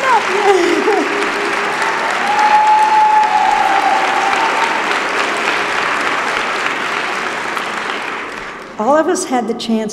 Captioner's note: applause